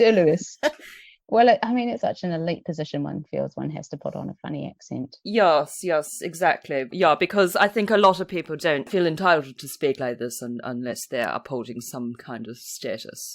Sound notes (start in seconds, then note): 5.2 in a mock posh accent